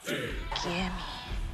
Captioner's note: whispers